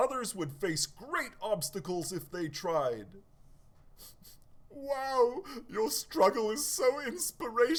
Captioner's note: sniffs